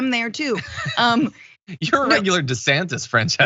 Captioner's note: laugh